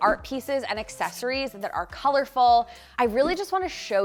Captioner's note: marker skritching